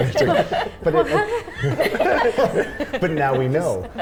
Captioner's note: all laughing